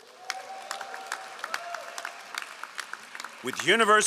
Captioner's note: all applauding